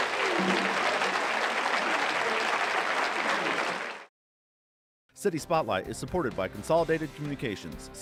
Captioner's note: clapping